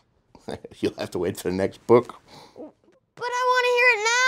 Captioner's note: chuckles